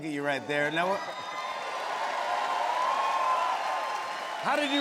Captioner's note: cheers and applause